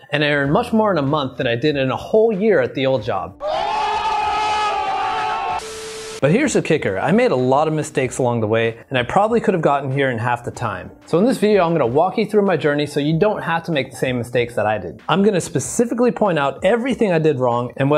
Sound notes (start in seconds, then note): 3.4 crowd cheering joyfully; 5.5 static buzzing